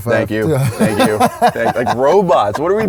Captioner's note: laughs